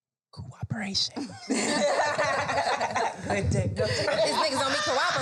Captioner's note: all laugh